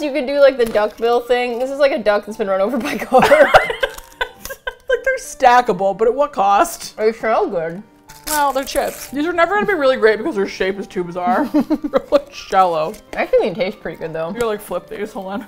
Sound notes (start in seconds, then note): 2.9 both laugh; 6.7 mouth full; 11.2 laughs